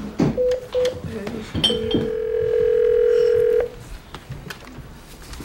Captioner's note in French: dring!